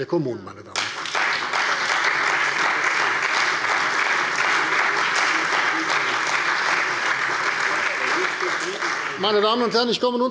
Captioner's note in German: Beifall bei der CDU und dem BÜNDNIS 90/DIE GRÜNEN